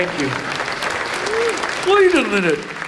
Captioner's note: audience applauds